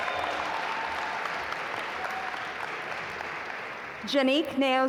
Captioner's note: audience applaud